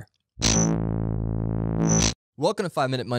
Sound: electricity pulsing

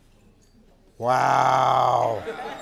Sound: laugh

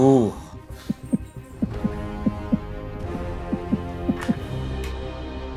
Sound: heartbeat noises

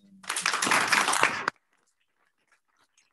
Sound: applause

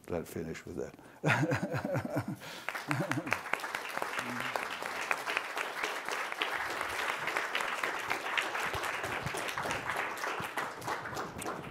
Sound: applause

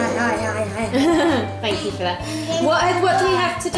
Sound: laughs

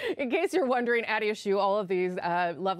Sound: laughter

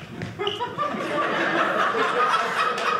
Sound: audience laughing

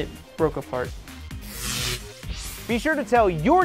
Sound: sound Effects

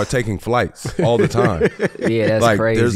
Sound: laughing

